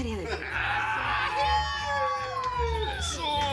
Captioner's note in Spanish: Exclamaciones